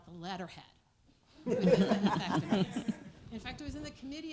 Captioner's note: laughter